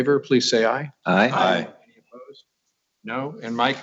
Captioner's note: multiple voices